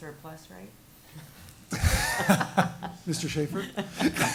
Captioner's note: laughing